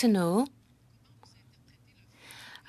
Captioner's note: speaking French